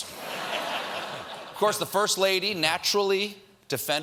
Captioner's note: laughter